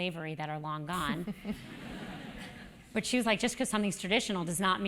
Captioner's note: laugh